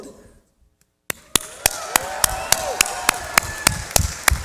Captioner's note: cheering